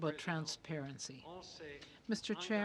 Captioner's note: speaking French